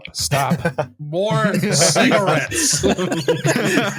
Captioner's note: laughter